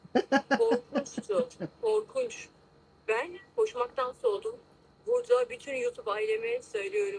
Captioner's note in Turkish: kahkaha